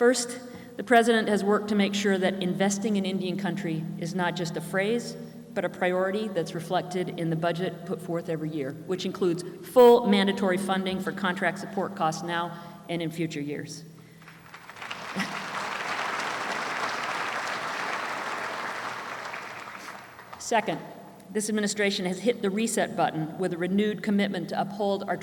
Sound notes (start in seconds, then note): 16.2 applause